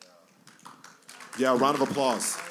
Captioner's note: applause